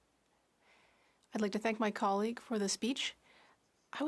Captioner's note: speaking French